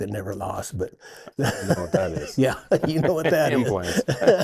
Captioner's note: laughs